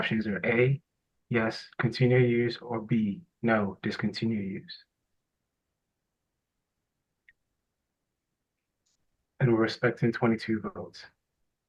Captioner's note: pause